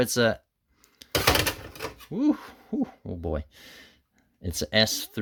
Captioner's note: bang